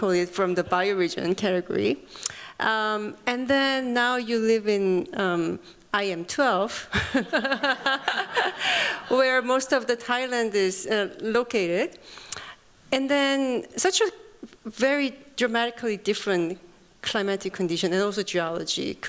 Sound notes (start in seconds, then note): 6.9 chuckles